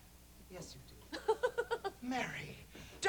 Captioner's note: chuckles nervously